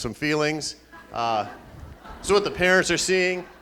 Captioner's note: laughing